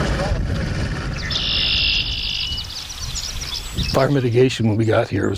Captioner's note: birds chirping